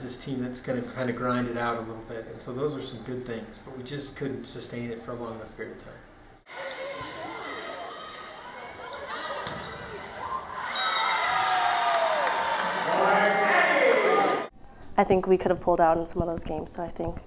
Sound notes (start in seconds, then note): 6.4 crowd noise; 11.0 cheering